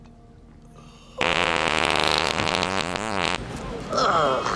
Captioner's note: flatulence